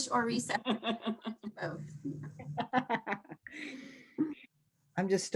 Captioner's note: laughing